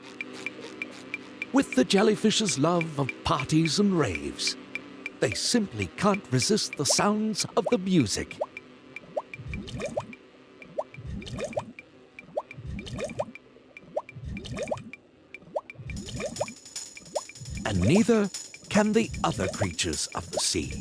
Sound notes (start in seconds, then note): 0.0 ticking, light buzzing; 8.4 ticking, bubbling; 13.7 ticking, bubbling